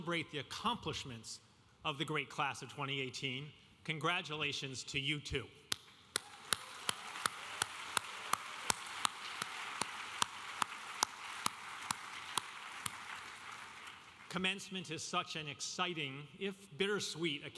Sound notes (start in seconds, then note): 6.1 audience applauding